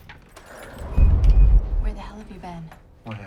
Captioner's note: door latch clicks; door whooshing